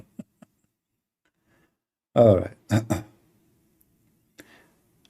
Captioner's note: Ketawa